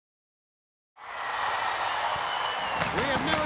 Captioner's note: crowd cheering